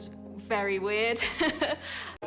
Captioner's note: laughs